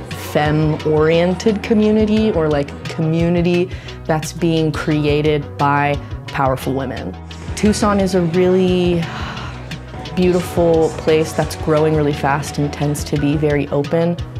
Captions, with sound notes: femme-oriented community or like, community that's being created by powerful women. Tucson is a really [ SIGHS ] beautiful place that's growing really fast and tends to be very open.